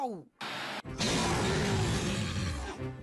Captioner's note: mother Rats Growling